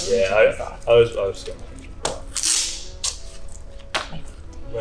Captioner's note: murmurs